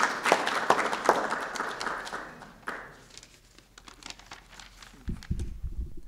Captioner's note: applause